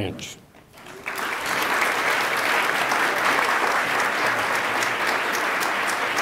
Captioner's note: attendees applaud